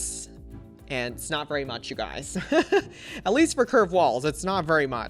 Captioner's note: laughs